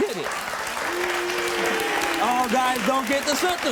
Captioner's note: applauding; crowd